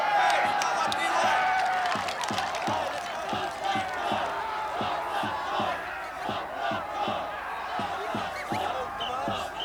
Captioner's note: crowd chanting